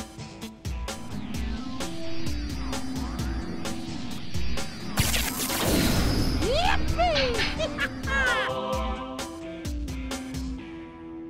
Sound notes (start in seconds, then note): 6.4 laughing